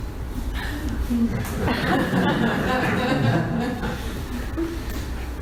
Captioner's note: audience laughs